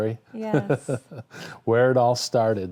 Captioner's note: laughing